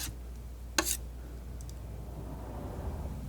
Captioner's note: scratching